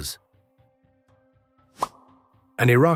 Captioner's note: silence